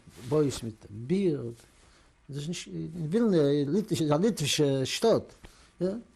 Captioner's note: non-english